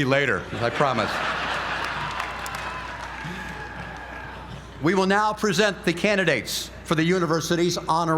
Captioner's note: laugh